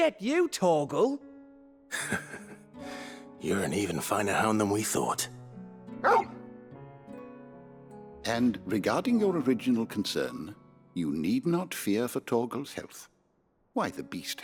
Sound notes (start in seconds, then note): 6.0 bark